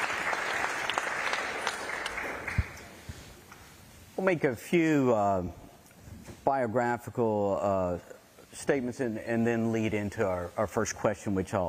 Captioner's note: applause